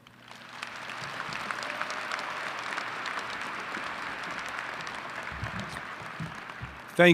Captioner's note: applause